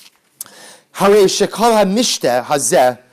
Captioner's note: Hebrew